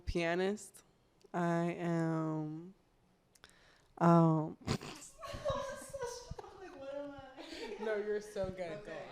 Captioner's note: laughs